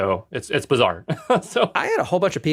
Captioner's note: laugh